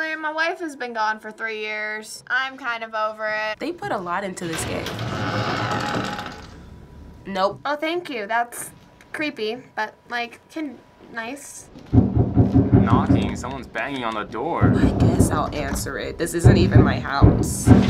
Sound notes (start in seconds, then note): 4.4 door creaks; 11.8 banging on door; 17.7 frantic banging